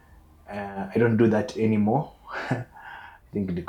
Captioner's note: laughs